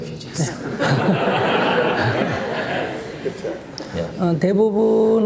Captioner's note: /Audience Laughter